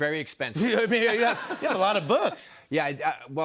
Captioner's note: laughs